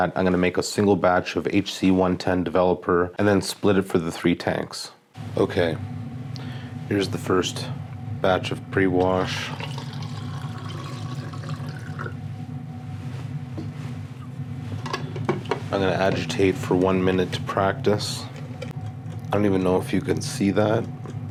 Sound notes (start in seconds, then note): 9.2 water pouring